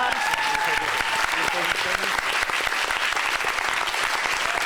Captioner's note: applause